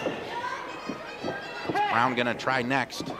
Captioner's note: crowd shouts